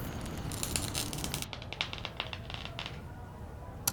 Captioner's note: battery sparking